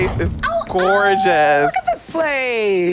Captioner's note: excited sound